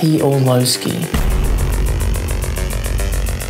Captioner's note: bang